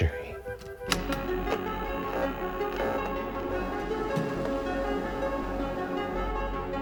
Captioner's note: inquisitive music; transition whirring